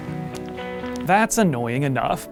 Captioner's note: cell phone button clicks